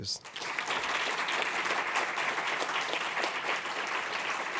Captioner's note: audience applauding